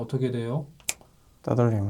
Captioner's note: snap!